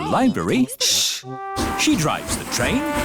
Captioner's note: chattering